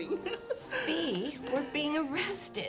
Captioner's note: laughing